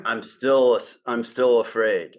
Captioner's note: laughs